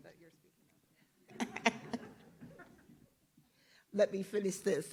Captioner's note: group laughs